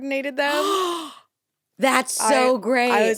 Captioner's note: gasps